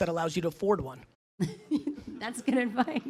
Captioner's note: laughs